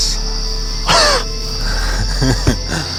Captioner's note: Tex scoffs; Addison chuckles